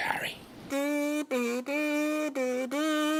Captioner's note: humming